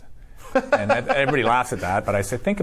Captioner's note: laughs